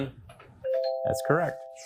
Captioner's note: bell dings